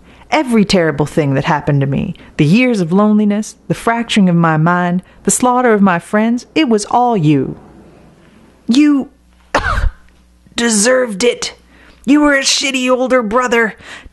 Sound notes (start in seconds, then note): 9.5 cough